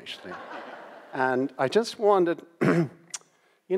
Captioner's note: audience laughs